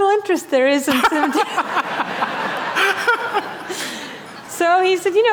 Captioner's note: laughter